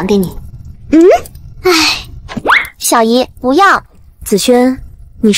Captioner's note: hesitant sound